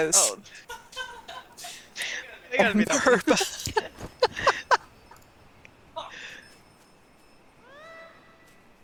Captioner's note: laughter